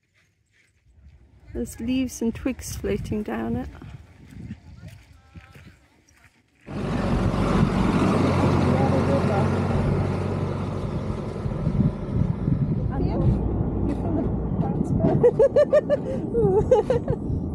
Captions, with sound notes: There's leaves and twigs floating down it. [truck noise] - You feel it bouncing? [laughing] Ooh. [laughing]